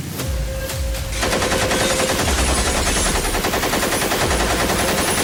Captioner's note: shots firing